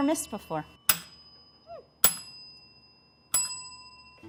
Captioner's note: bell ringing